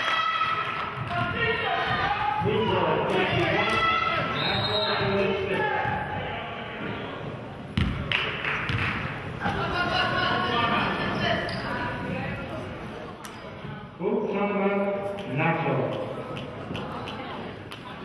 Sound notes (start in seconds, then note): 4.3 whistle blows; 8.1 clapping; 8.9 audience chattering